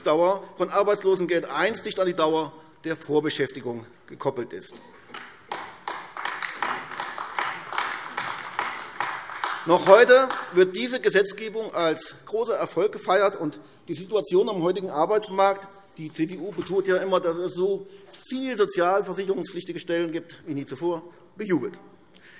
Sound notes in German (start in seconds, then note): 5.1 Beifall AfD